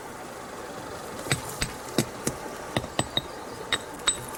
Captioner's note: tap tap tap